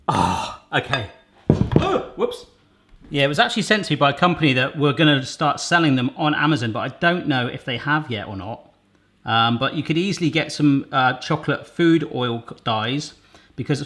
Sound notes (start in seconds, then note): 1.8 moans